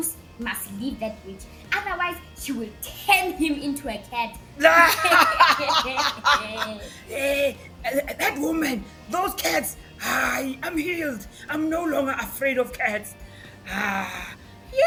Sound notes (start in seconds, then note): 4.6 dogs laugh out loud